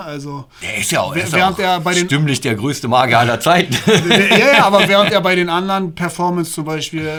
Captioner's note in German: Lachen